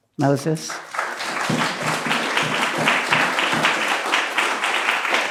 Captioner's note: applause